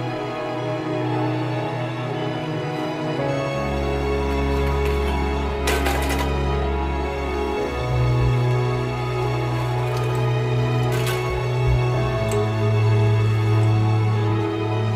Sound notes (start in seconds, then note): 4.2 wheelchair rattles; 13.8 classical music